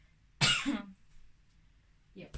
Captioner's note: coughs